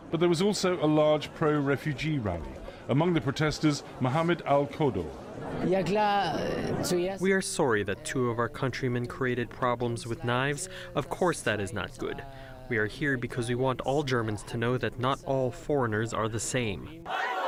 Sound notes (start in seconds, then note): 6.5 through translator